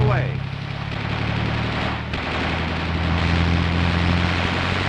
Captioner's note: machine gun firing